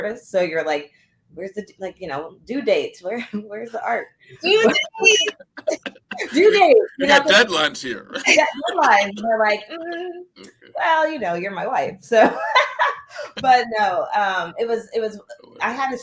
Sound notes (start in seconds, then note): 4.4 laughter; 12.1 laughter